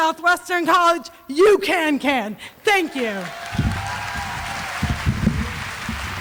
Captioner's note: applause